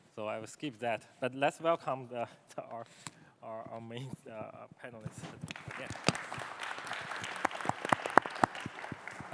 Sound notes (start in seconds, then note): 5.5 audience applauding